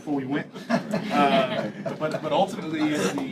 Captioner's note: laughter